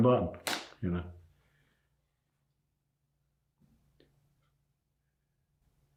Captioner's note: slap ringing out